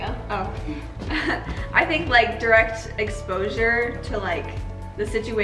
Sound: chuckles

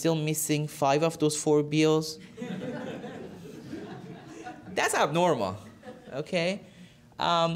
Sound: laughter

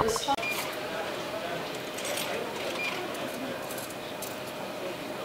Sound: coins dropping, machine beeps

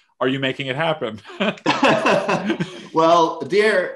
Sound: both laughing

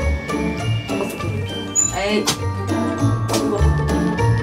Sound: beeping

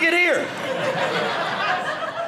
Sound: audience laughing

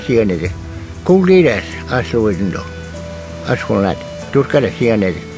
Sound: Speaking in Muscogee language

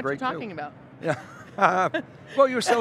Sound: laughing

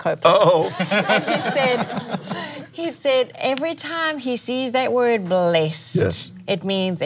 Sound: laughs

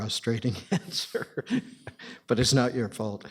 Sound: chuckling

